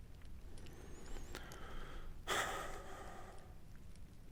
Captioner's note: sighs